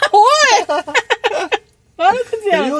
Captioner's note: laughs